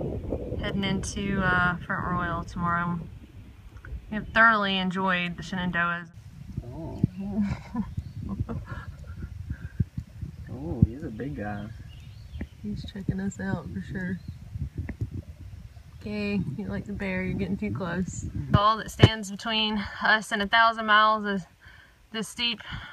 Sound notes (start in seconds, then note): 6.2 various oohing